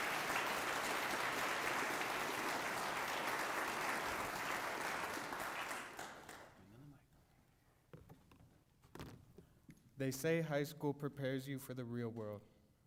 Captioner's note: applause